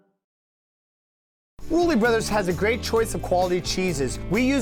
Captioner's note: voice-over